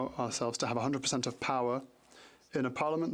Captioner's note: speaking French